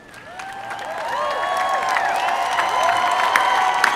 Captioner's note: applause